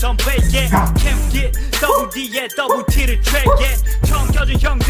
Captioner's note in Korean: 하- 호! 호-! 호!!